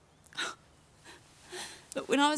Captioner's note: Trina sobs